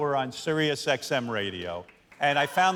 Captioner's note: cheers and applause